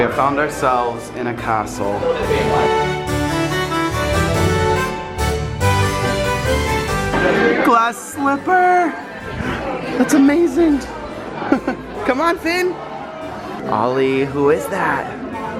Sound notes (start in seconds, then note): 2.6 royal music; 11.2 chuckles